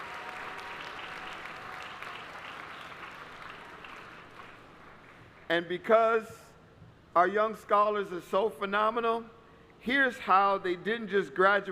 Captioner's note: applause